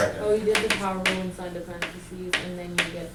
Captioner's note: voiceover